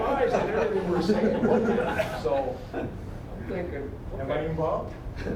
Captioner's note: audience laughing